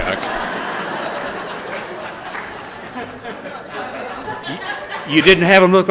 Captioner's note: laughter